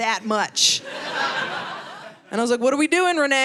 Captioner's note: audience laughing